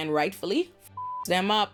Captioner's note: beep